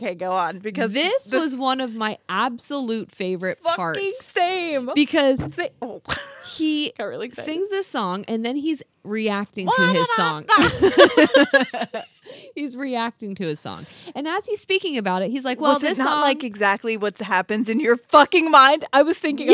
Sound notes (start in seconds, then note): 5.2 hand bumps; 7.5 laughs; 10.4 sings; 10.5 group laughs